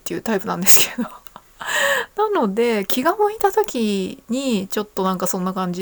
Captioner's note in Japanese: 笑い; 息をのむ音